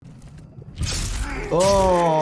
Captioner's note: laser blasting